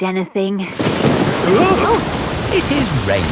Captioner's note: thunderclap; parents gasp